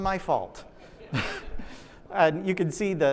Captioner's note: audience laughs